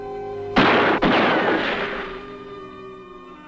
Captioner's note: gun fires